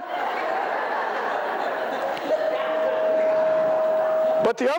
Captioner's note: laughter